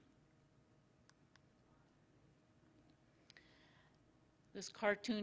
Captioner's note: silence